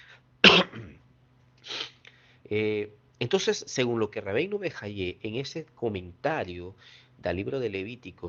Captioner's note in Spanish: resoplido